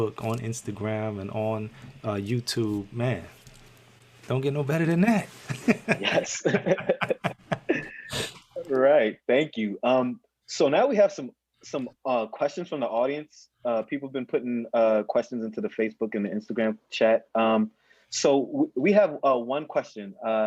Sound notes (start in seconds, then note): 5.5 laughing